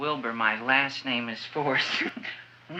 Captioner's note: laughs